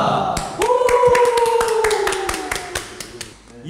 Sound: claps and Cry

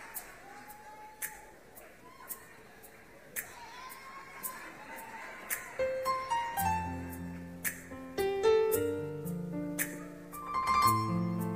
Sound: applause

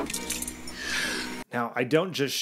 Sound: woman gasps

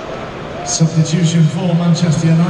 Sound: stadium announcement

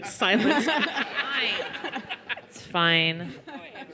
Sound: laughter

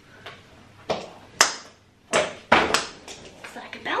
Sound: bulb bounces on floor

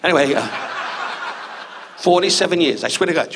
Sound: audience laughs

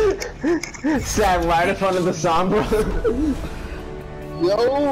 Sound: laughs

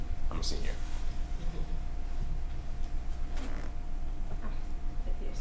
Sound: laughter

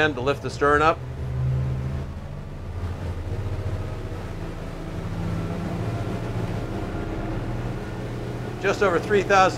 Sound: boat engine revving

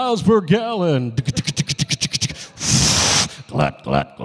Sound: making humorous noises

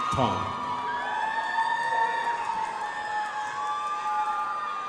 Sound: crowd applauding

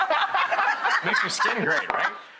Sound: laughing

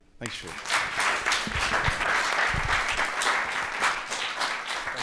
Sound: audience applauding

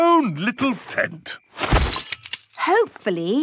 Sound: clang-ruffle-thump

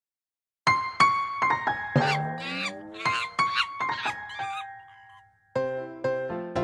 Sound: piano music; monkey sounds; piano music

